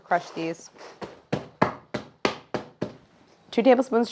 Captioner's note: hammering